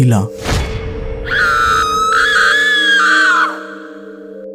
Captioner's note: female scary scream